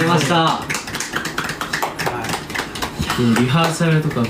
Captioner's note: clapping